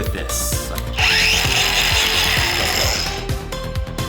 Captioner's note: tool buzzing